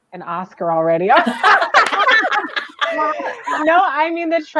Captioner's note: laughter